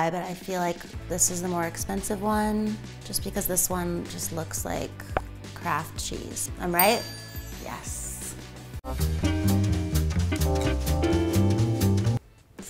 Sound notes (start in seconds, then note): 6.7 bell dings; 9.2 playful music